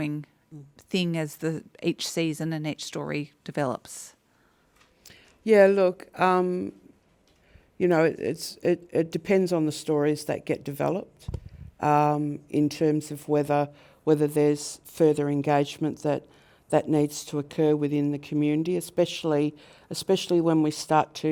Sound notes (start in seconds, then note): none